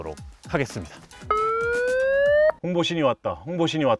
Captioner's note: sirens ringing